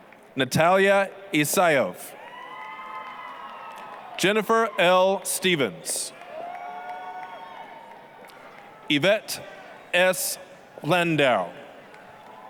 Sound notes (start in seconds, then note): 0.0 applause, cheering; 2.4 applause, cheering; 6.3 applause, cheering; 11.8 applause, cheering